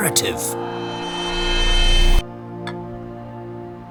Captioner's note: riot sounds fade away, transition sounds cue back to present